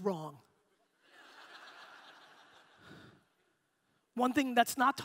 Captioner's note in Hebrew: הקהל צוחק